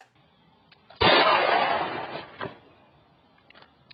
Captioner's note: gun bangs